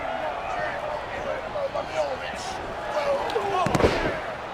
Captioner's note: wrestlers grunting